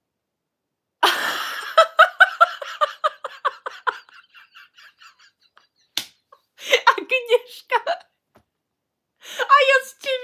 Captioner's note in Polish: śmiech